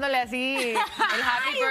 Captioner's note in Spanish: risas